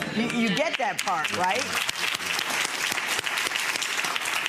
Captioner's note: applauding